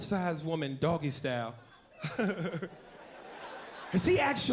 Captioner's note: laughs